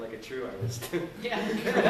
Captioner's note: laughter